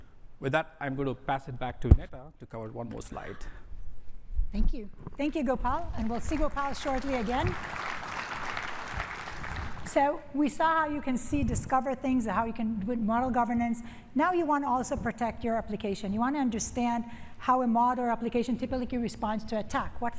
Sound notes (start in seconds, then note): 6.0 applause